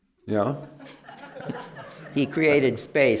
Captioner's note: laughter